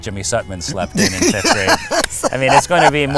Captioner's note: laughs